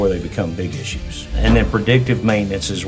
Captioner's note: screen whooshing